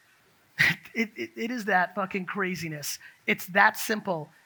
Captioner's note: laughs